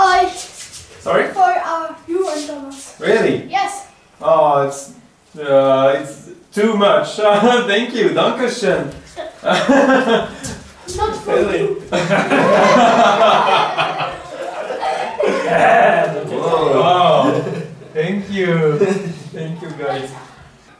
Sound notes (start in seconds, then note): 12.4 laughes